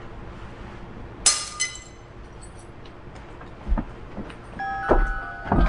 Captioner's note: glass shattering; music box chiming